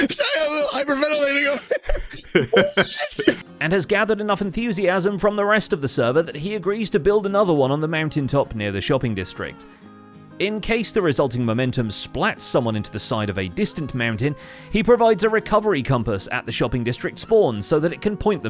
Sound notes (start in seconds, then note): 0.9 laughs; 2.0 breathes hard; 2.5 sputters gibberish